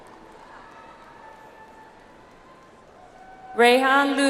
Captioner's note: audience applauds